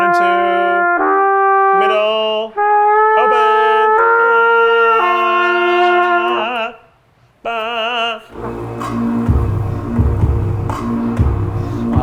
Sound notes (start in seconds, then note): 0.0 horn trumpeting; 7.5 vocalizing; 8.3 smooth upbeat music